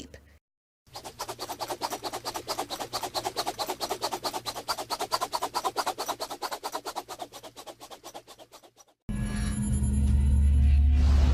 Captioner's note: whirling sound